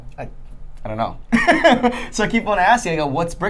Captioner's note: laughing